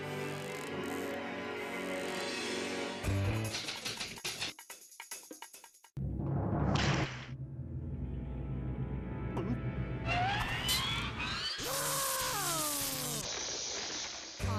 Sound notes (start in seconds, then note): 3.5 typewriter clacking; 11.6 screaming